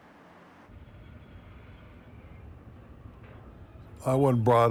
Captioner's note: machines whirring